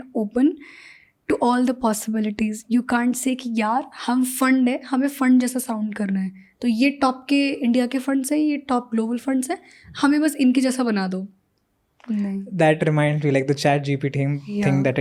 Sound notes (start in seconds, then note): 10.3 speaks in Hindi